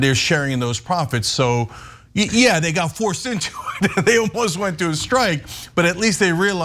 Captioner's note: laugh